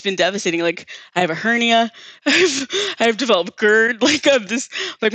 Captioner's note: chuckles